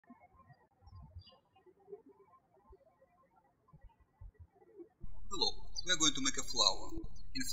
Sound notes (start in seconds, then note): 0.2 birds chirping